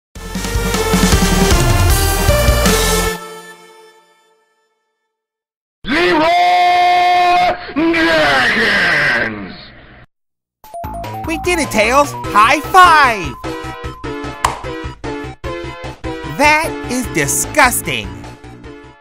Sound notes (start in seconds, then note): 14.4 high five slap sound is heard